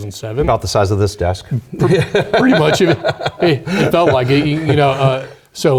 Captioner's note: laugh